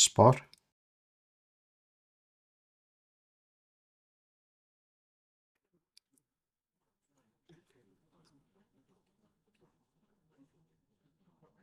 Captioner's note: silence